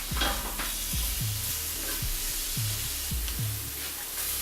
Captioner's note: peppers sizzling